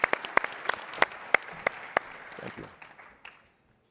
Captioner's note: applause